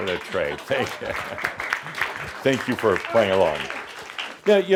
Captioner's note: audience applause